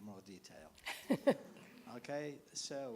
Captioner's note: laughs